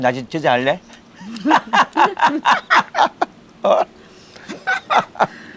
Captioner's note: both laughing